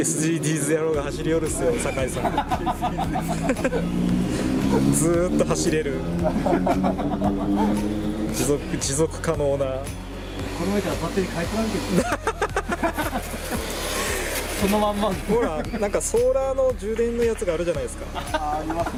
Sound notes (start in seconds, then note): 1.7 laughs; 12.0 laughs